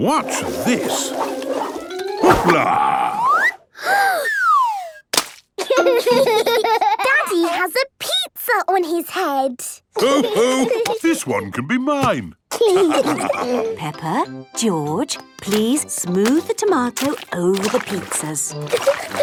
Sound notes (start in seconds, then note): 3.7 Peppa gasps; 5.1 splat